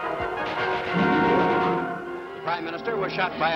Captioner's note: radio report in English